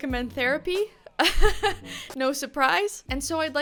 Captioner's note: laughs